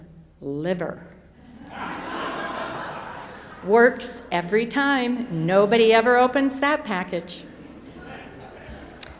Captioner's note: chuckles